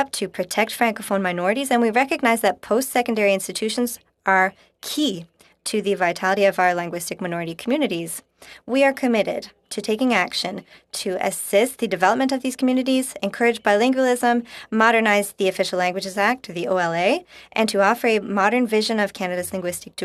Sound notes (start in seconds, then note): 1.3 speaking French